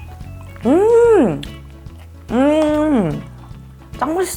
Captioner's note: humming out of pure excitement